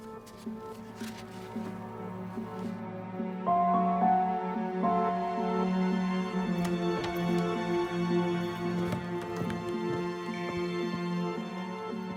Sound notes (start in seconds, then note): 6.5 door thudding